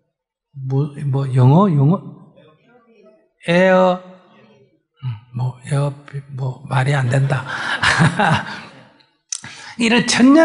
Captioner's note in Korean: 웃음